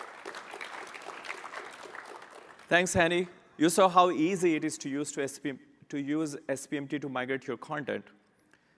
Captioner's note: applause